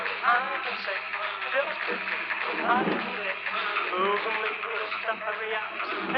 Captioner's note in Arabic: صوت التجديف